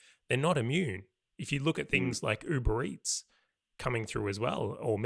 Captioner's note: none